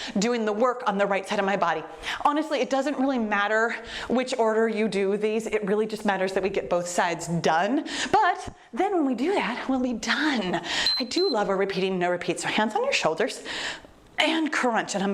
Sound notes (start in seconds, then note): 10.7 timer beeps